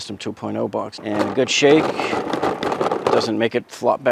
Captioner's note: rattling sound